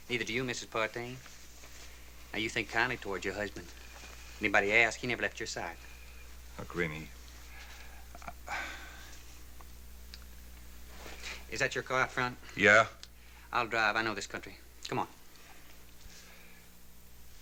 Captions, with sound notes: Neither do you, Mrs. Partain. Now you think kindly towards your husband. Anybody ask, he never left your side. Look, Rennie. [sighs] Is that your car up front? - Yeah. - I'll drive. I know this country. Come on.